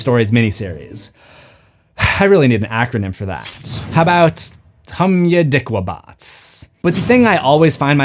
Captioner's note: takes breath